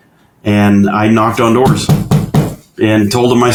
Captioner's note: knocks